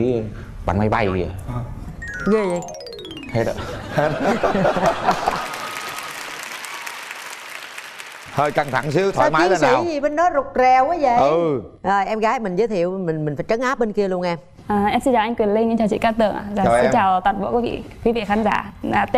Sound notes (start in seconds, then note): 4.3 laugh; 4.8 applause